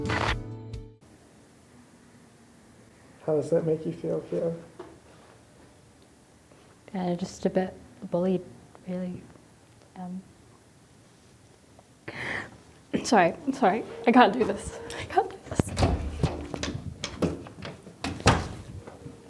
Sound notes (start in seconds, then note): 0.0 light music; 0.0 static crackles; 12.1 inhales sharply; 16.8 door opens; 18.0 door slams